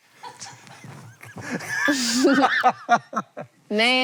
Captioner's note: HANK and CREW laugh